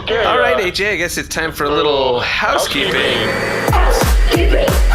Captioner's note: vacuum noises play over music